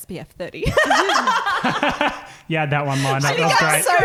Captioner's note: laughing